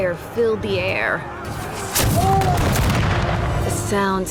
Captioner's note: cannon blasts, gunfire